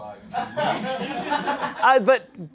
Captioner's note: audience laughing